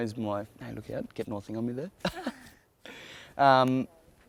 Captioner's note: laughs